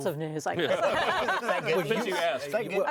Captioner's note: laughing